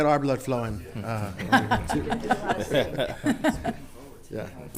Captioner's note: all laughing